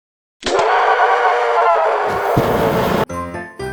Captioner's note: hellish shriek